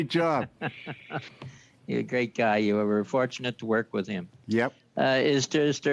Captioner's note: laughter